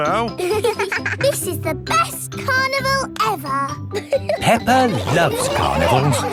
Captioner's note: both giggling